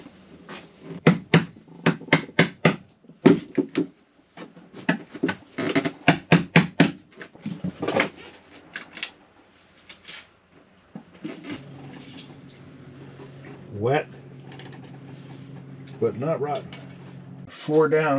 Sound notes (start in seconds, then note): 0.9 hammering; 1.9 drilling